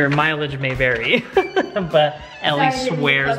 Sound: chuckles

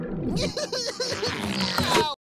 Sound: sobbing

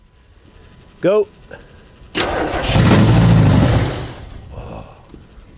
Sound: engine straining

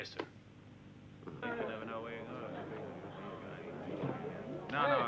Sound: people chattering

